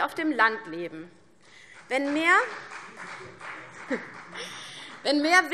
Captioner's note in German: Beifall CDU